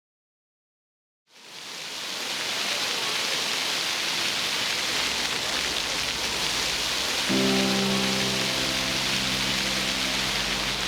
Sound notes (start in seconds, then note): 1.6 water splashing; 7.0 gentle music